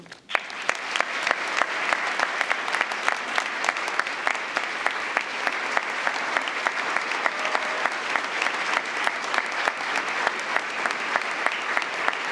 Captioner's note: applause